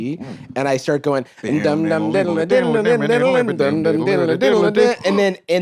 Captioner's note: both mimicking guitar riff